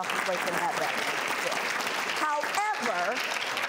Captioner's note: audience clapping